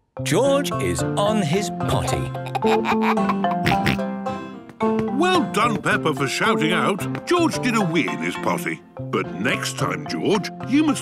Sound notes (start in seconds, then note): 2.0 giggles, snorts